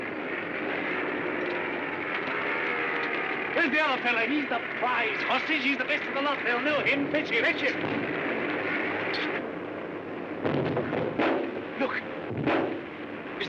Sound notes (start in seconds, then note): 0.3 aircraft rumbling; 8.2 aircraft noise; 10.4 soft explosion